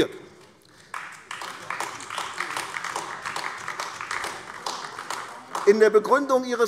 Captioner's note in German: Beifall AfD